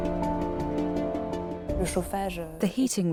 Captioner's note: non-english speech